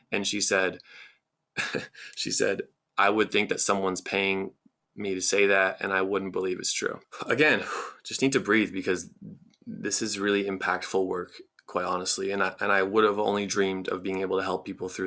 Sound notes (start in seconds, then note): 1.6 chuckles